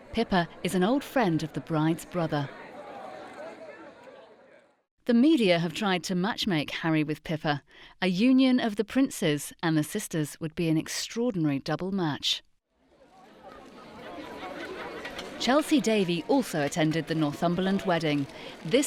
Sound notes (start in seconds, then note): 12.9 people chattering